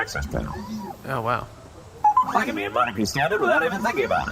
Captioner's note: chimes, in a southern accent